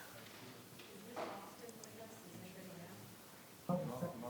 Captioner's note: people murmuring